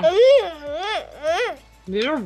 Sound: speaking gibberish

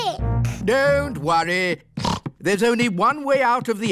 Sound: snorts

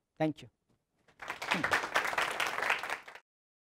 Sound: claps

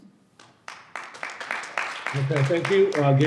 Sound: audience clapping

